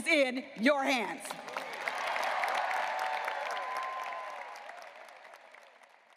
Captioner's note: graduates applauding and cheering